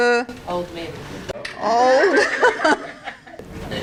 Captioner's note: audience laughter